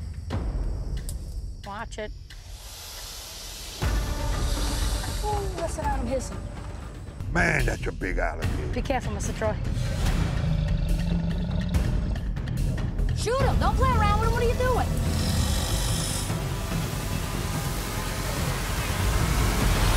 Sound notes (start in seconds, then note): 9.6 alligator growling; 15.7 suspenseful music intensifies